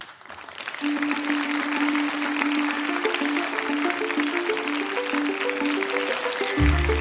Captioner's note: applause